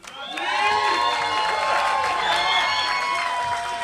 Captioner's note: applause